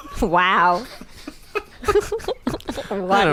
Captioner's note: all laughing